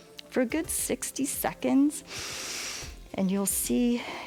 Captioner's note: inhales